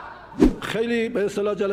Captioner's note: laughter